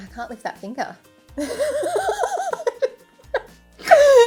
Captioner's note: laughing